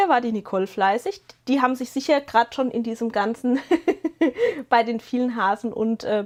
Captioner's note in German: gelächter